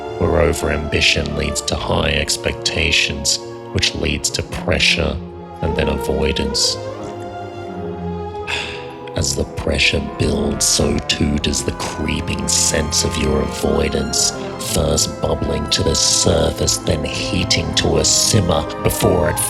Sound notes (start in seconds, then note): 7.5 glugging; 8.4 sigh